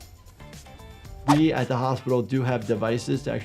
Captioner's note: funky music intensifies; graphics swishing